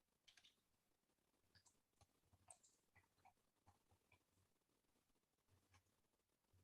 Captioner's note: mouse clicking